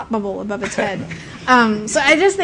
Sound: laughter

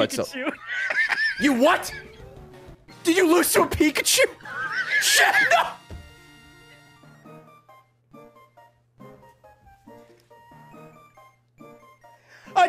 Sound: cackles

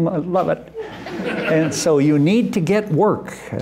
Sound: laughter

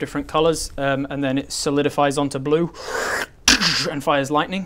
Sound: whrrch tchzsssch

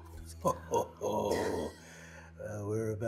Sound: laughs

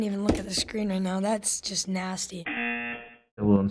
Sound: buzzer

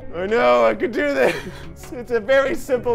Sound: laughs

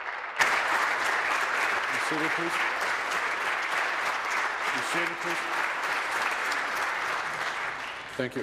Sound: applause

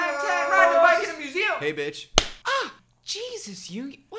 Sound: smACK

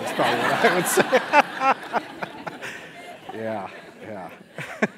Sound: laugh

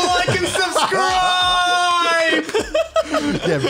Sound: laughs

